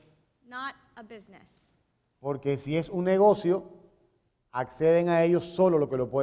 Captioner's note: speaking in Spanish; speaking in Spanish